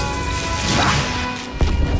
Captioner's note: electricity movement; rumbling explosion